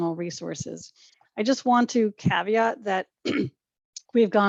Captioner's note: clears throat